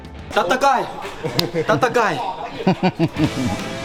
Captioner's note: speaking something in Janpanese